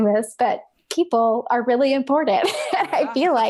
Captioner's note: laughs